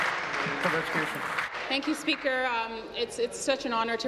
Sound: applause

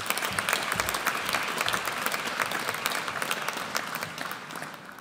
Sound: audience applauds

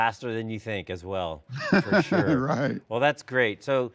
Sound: laughing

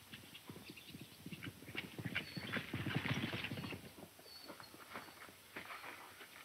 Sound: hoof beats getting louder

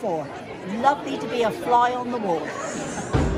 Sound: laughs

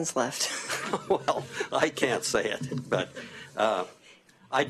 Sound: laughter

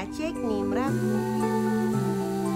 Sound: speaks Czech

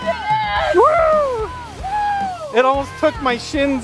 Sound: cheering

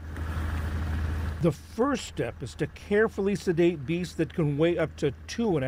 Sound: voice-over

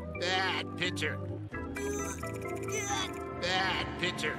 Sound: grunting

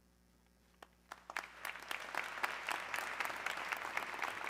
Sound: audience clapping

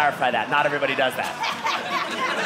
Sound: audience laughing

